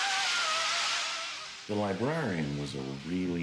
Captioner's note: screaming